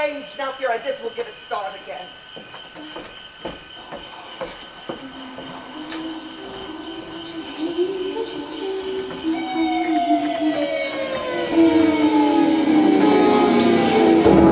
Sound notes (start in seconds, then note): 4.4 whispering; 14.0 dramatic music